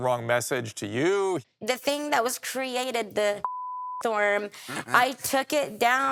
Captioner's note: beep